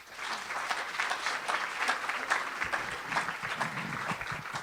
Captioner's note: audience applauds